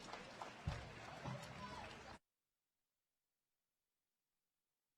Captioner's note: applause